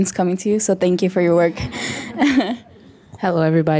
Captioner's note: audience chuckles